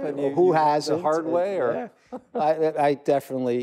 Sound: chuckles

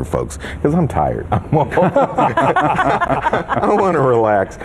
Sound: all laugh

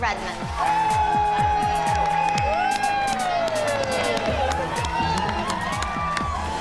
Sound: cheering

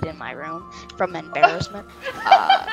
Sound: laughter

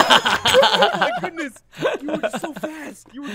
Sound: laughing

